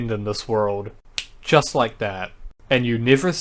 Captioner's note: snap